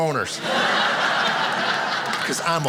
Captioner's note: audience laughing